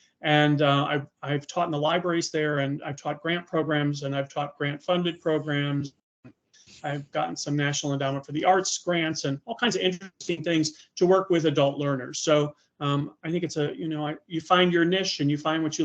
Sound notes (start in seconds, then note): none